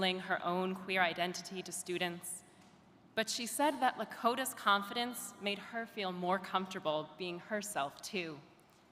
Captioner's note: none